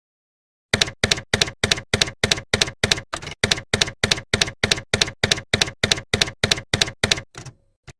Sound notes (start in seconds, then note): 0.8 typewriter keys clacking